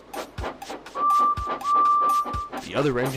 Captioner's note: Edward whistles